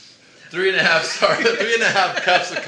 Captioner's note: both laugh